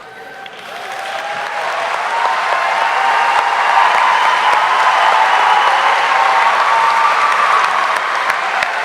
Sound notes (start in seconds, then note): 0.1 audience cheering; 0.2 audience applauding